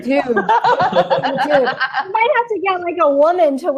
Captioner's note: laughing